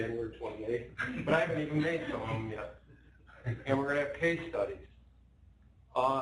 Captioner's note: laughter